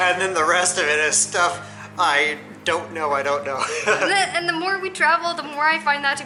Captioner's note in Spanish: Risas